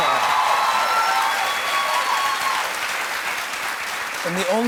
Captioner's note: cheers and applause